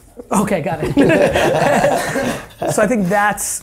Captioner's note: laughs